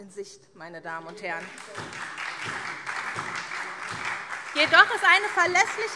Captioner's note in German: Beifall SPD